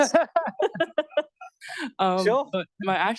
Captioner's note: laughter